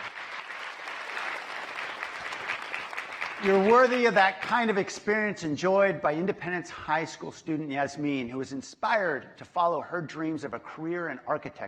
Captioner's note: applause